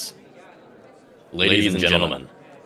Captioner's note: loudspeaker